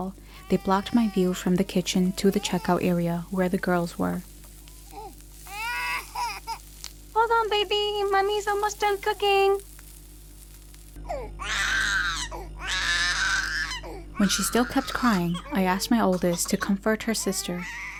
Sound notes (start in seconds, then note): 5.5 crying; 11.4 screaming